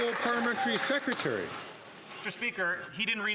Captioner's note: some Applause